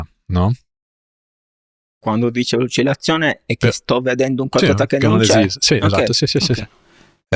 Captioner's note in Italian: schiarire la voce